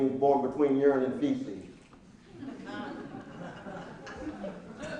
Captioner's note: laughing